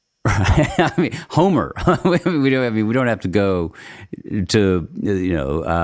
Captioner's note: laughs